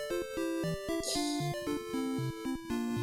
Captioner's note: laughs softly